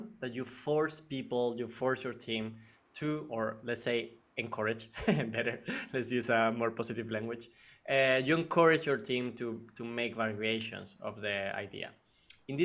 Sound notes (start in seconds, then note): 4.9 chuckles